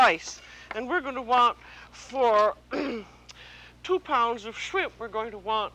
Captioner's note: clears throat